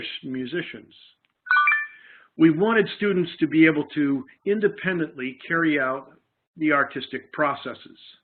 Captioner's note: background beep